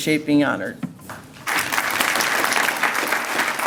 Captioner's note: applause